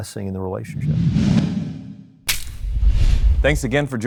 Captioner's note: logo swooshing